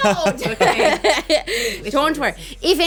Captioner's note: laughing